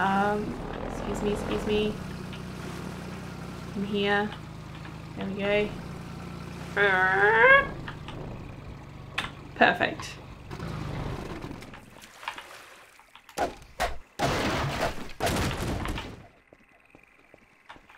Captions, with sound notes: Excuse me, excuse me. In here. There we go. [car drift sound] Perfect.